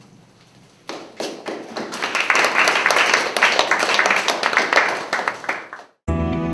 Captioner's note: applause